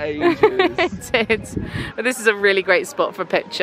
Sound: laughs

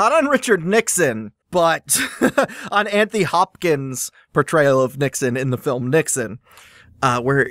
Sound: laughs

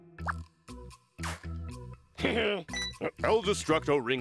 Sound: laughs

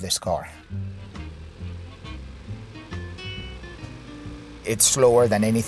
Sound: car engine puttering; jazzy upbeat music

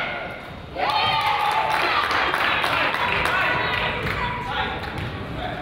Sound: crowd applauds and cheers

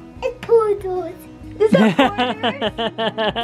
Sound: laughs

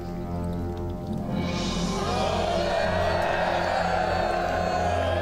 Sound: cheering

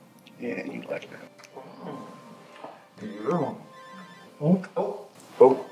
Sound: phone ringing

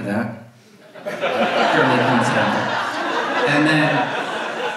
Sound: audience laughs

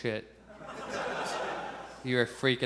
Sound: audience laughs

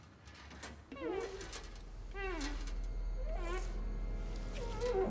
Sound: squeaking on glass; suspenseful music builds

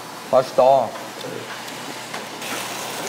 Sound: munching

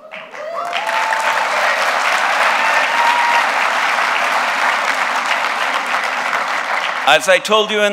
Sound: applause

